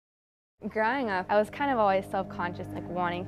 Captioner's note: voiceover